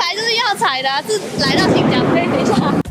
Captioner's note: thunders